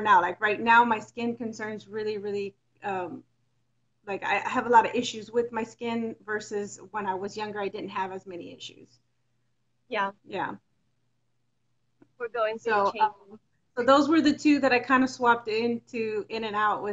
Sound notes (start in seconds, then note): none